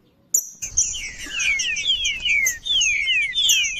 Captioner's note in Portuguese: trinca ferro cantando